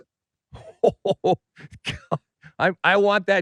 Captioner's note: laughs